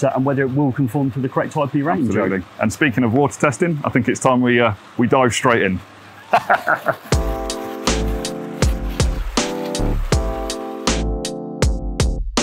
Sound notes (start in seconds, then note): 6.1 laughs; 7.1 calm upbeat music